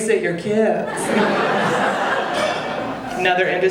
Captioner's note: audience laughing